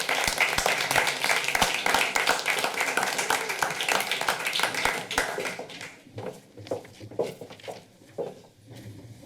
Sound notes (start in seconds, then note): 0.0 applause; 6.1 heels clacking